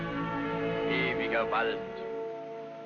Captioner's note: film narrator, in German